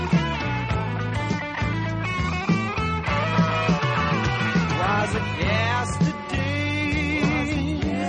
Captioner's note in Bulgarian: Ръкопляскания